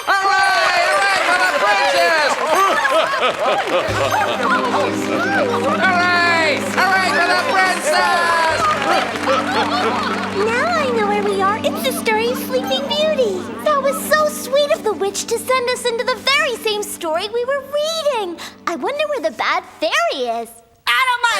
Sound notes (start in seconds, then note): 2.7 joyous applause